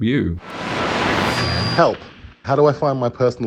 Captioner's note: radio whirring